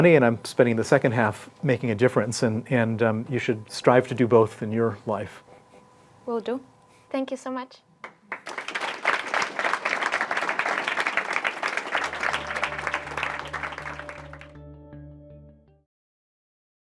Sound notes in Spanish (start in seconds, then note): 8.0 aplausos